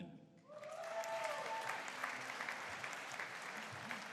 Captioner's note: audience cheering